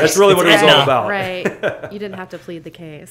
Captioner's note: laughs